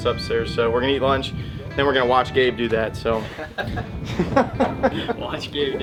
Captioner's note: laughter